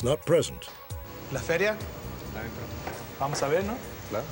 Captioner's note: speaking spanish